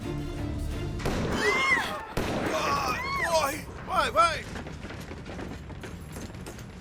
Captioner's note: gunshots banging; women screaming